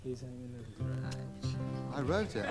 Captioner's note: scoffs